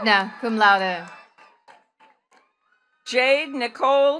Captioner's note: attendees cheering and clapping